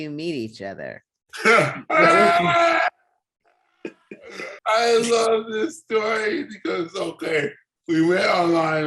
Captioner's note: laughs